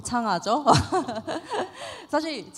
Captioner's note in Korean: 웃음